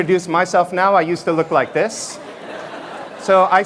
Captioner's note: laughter